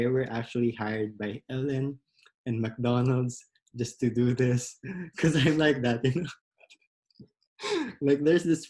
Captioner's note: laughs